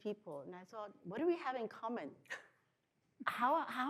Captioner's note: chuckles